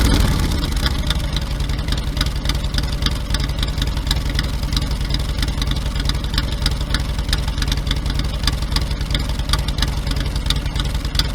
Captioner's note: engine idles